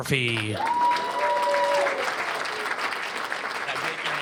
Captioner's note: cheers and applause